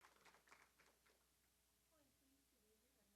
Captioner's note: applause